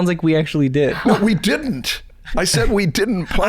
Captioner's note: chuckles